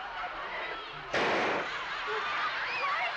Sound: bang

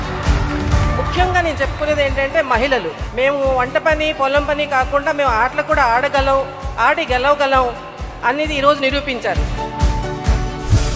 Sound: in Tamil

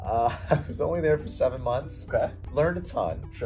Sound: laughs

